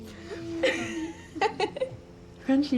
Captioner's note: Jane laughs